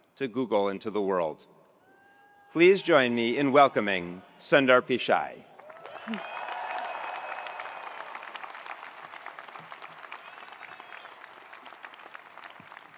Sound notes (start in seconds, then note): 5.6 attendees cheering; 5.6 attendees applauding